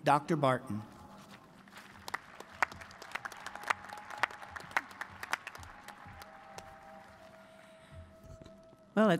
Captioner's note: applause